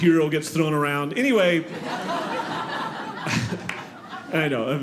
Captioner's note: audience laughing